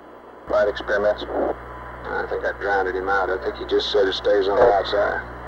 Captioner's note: mission Control Audio